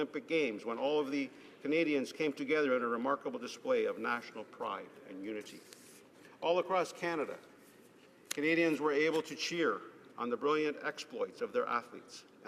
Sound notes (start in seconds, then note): none